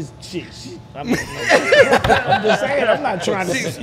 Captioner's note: laughter drowns out